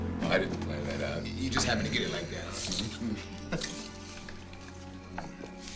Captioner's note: laughs